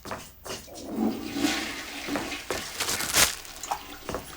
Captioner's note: toilet flushing